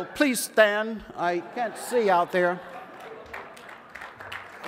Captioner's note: laughter; scattered applause